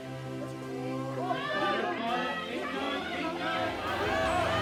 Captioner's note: audience yells encouragingly